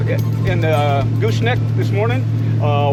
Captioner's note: boat engine running